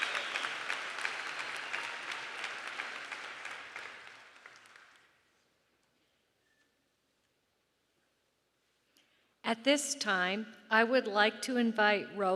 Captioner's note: applause